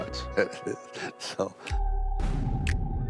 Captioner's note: chuckles